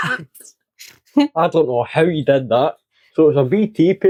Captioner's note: laughs